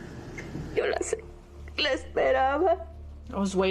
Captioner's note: mom speaking native language